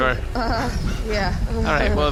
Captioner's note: uncomfortable noises